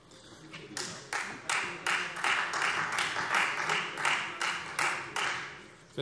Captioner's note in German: Beifall Freie Demokraten